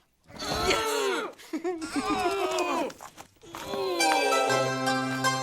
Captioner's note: Paris giggles; playful music